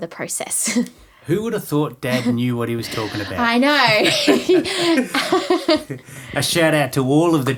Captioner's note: both laughing